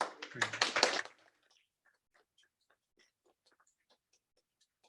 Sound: participants clapping

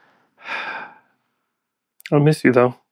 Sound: sigh

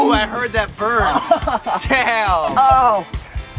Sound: groaning

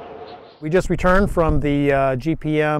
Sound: howling wind

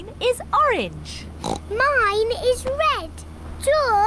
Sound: oinks

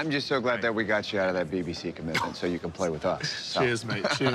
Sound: laughs

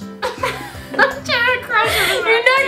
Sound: laughter

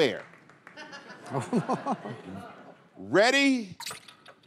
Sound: laughter

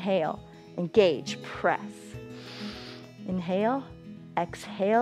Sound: inhales

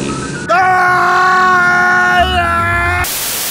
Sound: screams in Scottish Gaelic

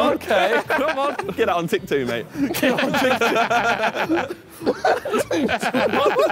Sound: laughing

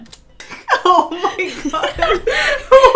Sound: both laugh

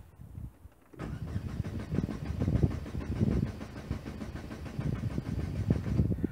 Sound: engine cranking sound

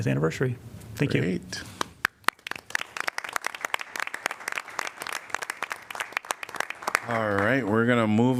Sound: applause

